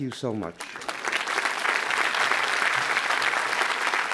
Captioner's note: applause